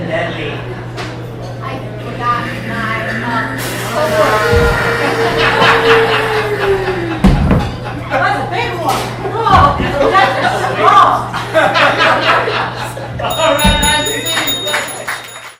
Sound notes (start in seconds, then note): 3.6 loud and deadly fart noises